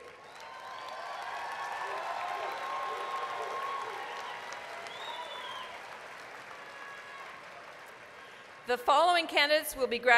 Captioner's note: applause, cheering